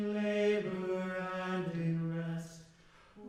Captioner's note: all voices join